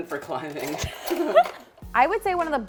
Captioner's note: laughs